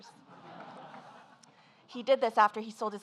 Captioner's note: audience laughing